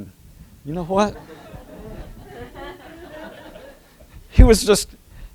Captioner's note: laughter